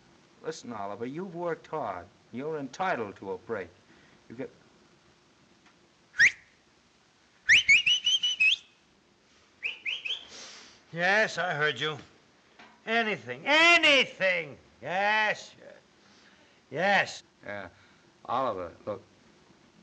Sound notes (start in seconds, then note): 7.4 whistling